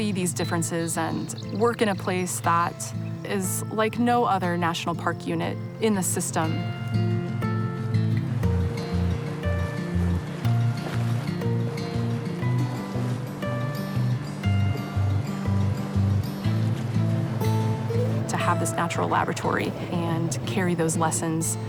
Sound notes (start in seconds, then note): 8.9 oars splashing; 11.3 water flowing